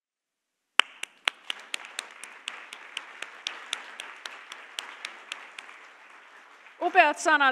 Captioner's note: applause